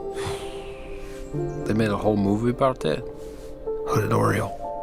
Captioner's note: exhales